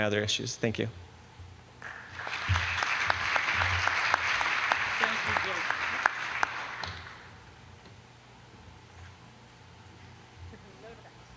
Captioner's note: applause